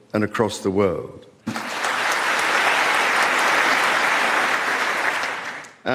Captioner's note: clapping